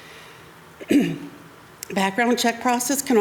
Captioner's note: clears throat